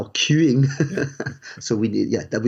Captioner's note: chuckles